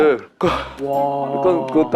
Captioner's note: pained